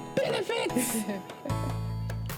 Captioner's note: laughs